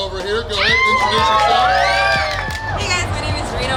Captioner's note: cheering & Clapping